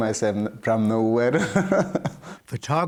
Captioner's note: laughter